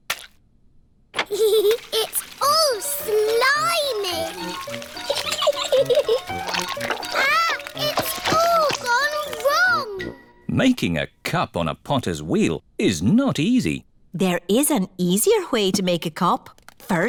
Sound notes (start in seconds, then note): 1.4 giggles